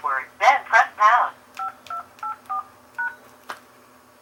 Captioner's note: phone being dialed